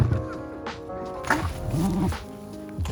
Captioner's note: excited corgi grumbles